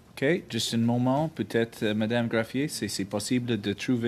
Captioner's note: speaking French